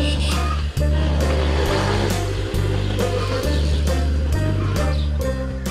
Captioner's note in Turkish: Motosiklet sesi